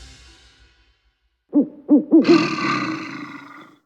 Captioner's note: hooting and growling